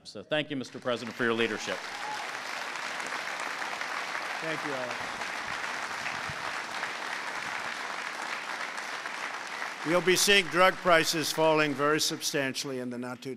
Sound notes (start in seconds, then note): 0.5 applause